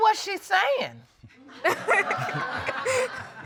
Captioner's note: all laughing